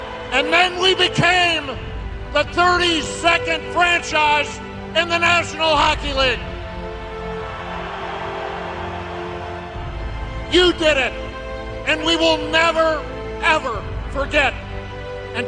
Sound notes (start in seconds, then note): 7.3 crowd cheering